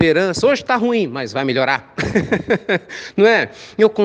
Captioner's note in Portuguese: risos